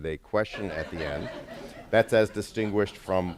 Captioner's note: laughter